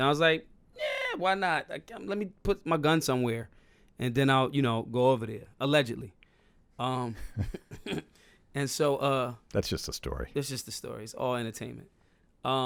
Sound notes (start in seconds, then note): 7.2 laughing